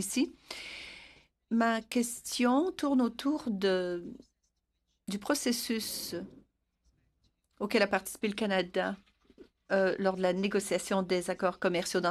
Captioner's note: speaking French